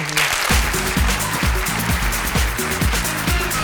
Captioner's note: applause & cheers